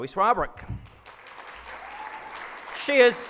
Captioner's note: audience claps